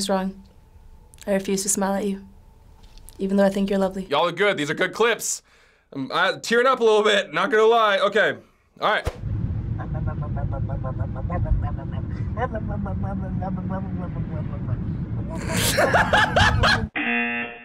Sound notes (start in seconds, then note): 9.8 mouth sounds; 15.3 laughs